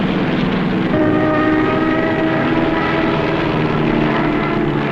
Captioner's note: engines shrieking